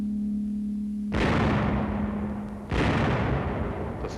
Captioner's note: booming